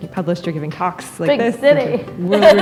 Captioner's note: laughter